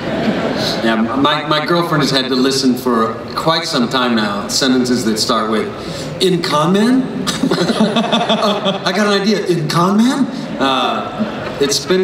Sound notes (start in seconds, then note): 0.0 laughter; 7.3 laughs